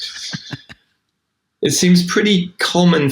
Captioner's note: person laughing